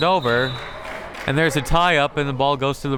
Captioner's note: whistle tweeting